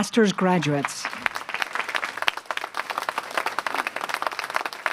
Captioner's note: applause